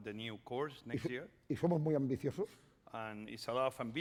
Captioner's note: speaking spanish